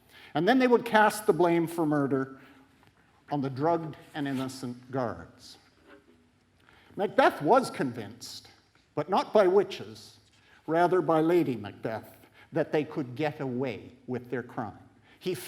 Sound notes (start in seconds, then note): none